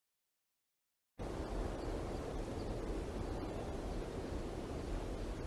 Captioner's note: soft wind